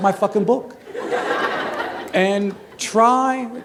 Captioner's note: laughter